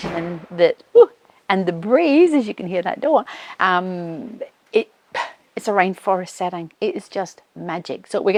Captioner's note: door blows shut